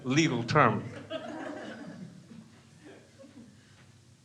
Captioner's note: crowd laughs